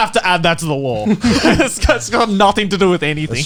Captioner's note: all laughing